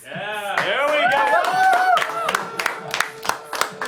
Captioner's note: clapping